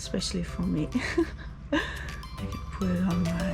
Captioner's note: laughs